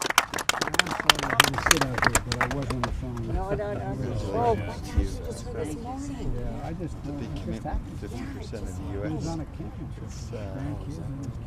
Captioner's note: cheers and applause